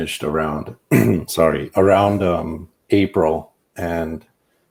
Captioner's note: clears throat